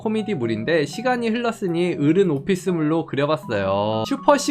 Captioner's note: voiceover